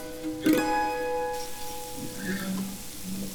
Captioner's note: eggs sizzling